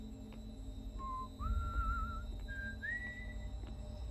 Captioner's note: whistling